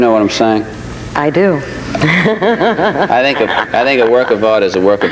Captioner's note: laughs